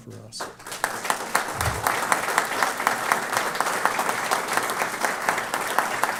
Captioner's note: applause